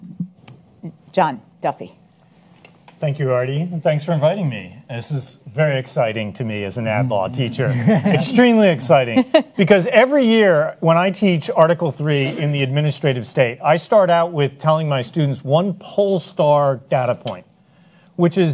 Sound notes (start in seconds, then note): 7.2 panelists chuckle